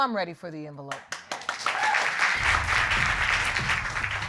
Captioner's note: audience applauding